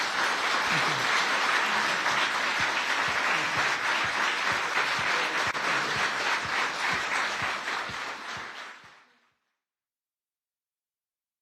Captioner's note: applause